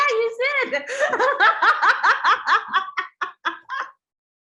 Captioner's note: both laugh